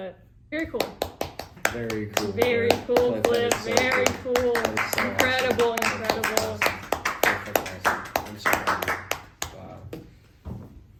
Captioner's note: applause